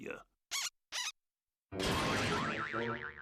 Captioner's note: squeaking; crashing